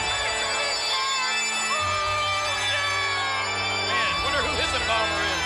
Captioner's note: Paul cries out indistinctly